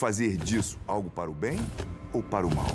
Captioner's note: flapping wings